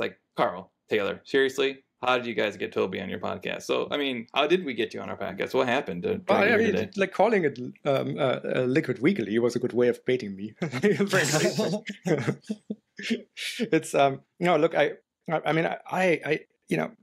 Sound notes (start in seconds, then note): 10.6 laughter